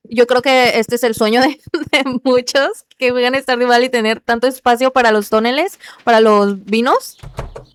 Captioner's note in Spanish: risas